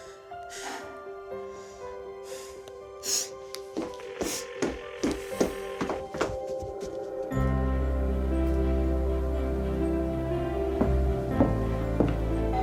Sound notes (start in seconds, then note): 4.4 phone ringing